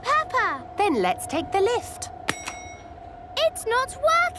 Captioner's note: lift pings